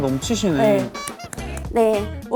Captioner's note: A round of applause for the appreciation